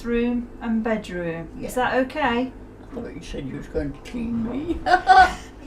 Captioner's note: laughs